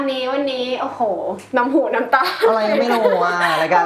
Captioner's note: laughs